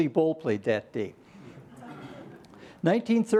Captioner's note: laughter